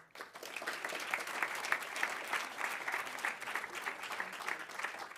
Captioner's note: audience applauding